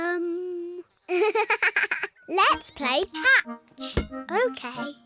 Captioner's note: giggles